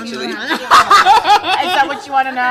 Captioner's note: both laughing